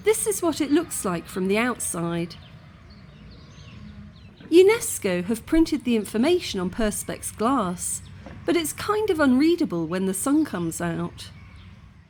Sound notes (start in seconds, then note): 2.5 birds singing